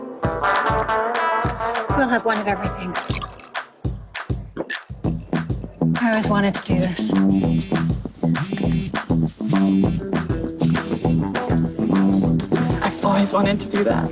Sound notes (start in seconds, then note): 3.9 dramatic music; 7.5 phone vibrating